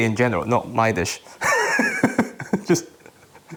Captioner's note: laughs